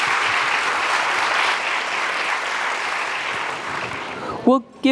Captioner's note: audience applauding